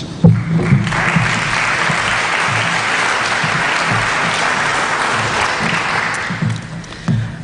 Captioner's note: applause